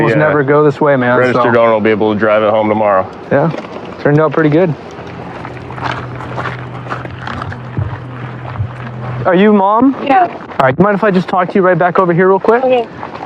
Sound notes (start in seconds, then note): 4.7 fooootstetepsps crurunc